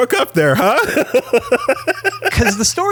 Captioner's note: laughs